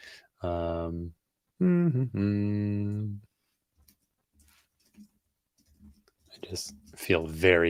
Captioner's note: hums